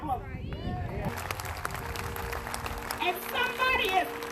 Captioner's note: crowd applauding